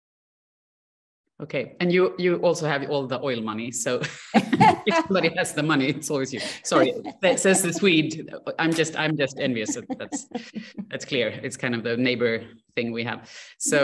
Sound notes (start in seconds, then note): 4.0 laughter